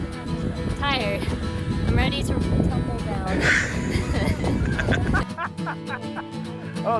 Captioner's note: laughs